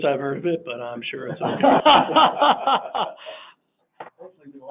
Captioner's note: laughing